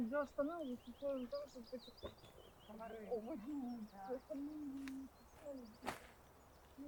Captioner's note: two women's voices